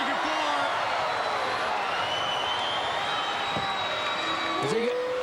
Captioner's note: crowd cheering; crowd whistling; Ric howling; crowd howling